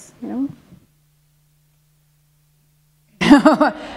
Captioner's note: chuckle